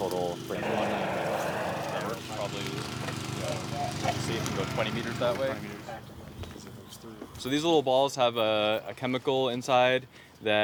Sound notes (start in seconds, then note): 6.4 workers chattering